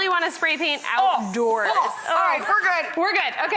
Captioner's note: coughs